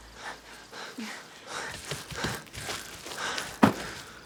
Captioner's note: both panting